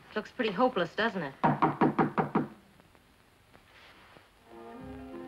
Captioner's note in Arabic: طرق الباب; موسيقى أوركسترالية مبهجة